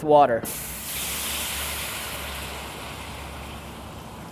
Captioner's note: water sizzles